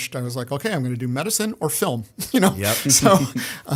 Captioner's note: chuckle